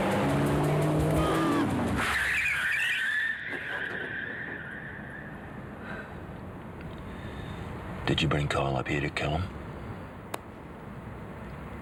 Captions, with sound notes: - Stop. (car screeching) - Did you bring Kyle up here to kill him?